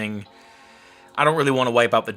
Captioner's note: computer dinging